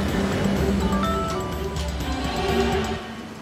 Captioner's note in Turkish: Telefon çalıyor